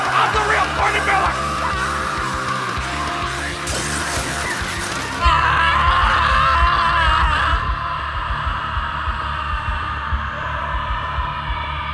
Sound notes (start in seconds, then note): 3.6 glass shattering